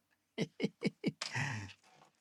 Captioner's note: chuckles